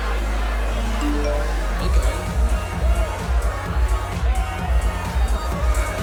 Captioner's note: phone chimes